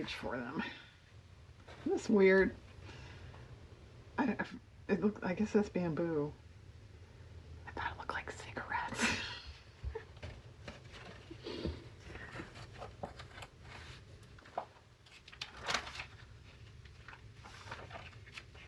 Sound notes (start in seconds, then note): 6.6 whispers; 12.3 laughs